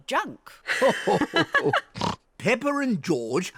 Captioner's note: grandpa and granny laugh